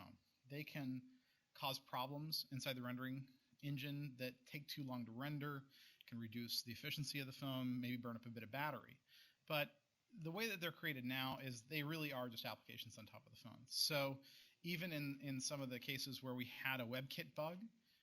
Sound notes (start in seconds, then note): none